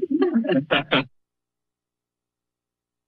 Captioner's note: laughter